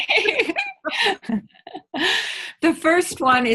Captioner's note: laughing